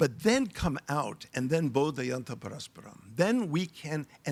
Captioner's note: speaking in foreign language